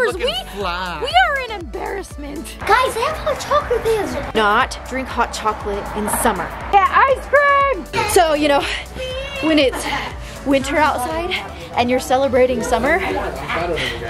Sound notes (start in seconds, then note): 3.9 murmuring